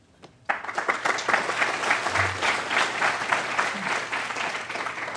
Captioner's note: applause